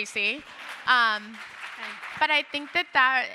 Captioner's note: audience applauding